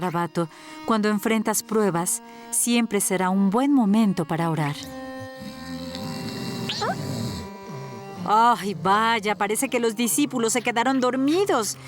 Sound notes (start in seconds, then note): 5.2 snoring